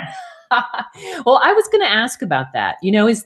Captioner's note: laughter